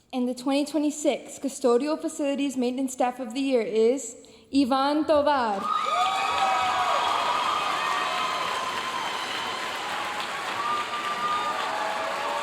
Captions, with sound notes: And the 2026 Custodial Facilities Maintenance Staff of the Year is Ivan Tovar. (audience cheering and applauding)